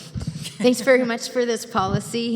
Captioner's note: chuckles